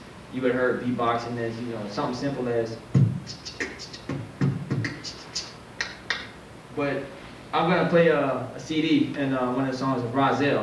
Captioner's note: beatboxing